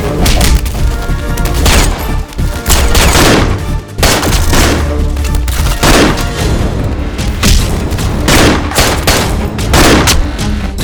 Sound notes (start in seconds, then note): 2.7 gunshot; 9.6 gunshot